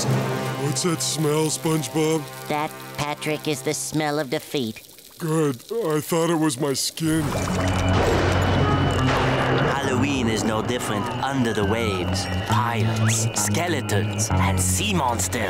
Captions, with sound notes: What's that smell, SpongeBob? That, Patrick, is the smell of defeat. Good. I thought it was my skin. [thundering] Halloween is no different under the waves. Pirates, skeletons and sea monsters.